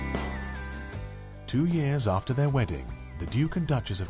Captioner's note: voiceover